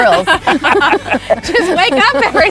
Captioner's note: family laughing